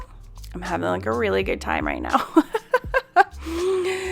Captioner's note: laughs